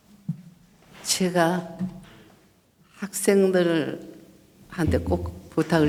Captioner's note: speaking foreign language